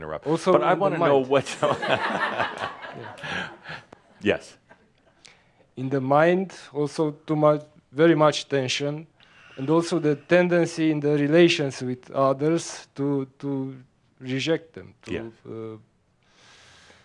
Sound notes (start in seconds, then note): 1.3 laughter; 15.2 he sighs